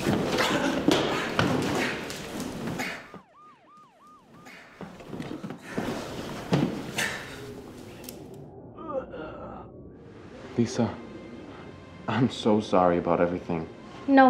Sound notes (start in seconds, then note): 0.1 all clattering; 2.9 sirens wailing